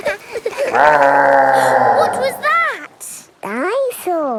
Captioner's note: gasps; laughing; growling